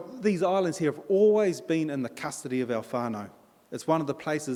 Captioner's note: in Maori